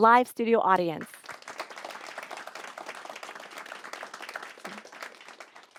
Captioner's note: audience applauding